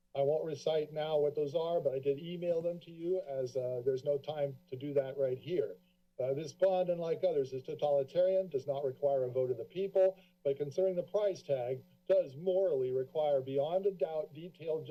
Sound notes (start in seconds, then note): none